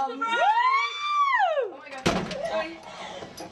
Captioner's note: bridesmaids shouting